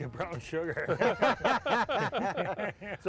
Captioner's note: all laughing